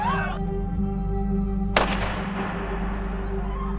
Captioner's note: gunshot